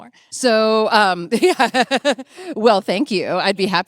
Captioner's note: laughing